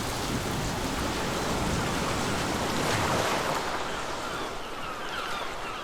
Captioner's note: lapping waves; seagulls